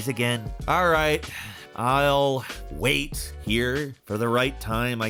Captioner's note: sighs